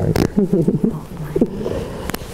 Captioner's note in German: Kichern